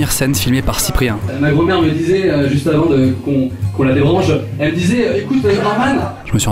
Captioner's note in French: rire